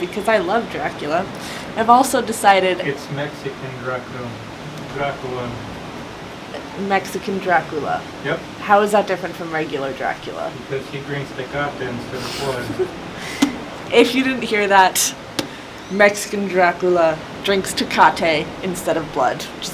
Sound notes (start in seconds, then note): 12.2 laughs